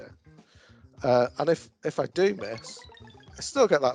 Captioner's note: game tinkles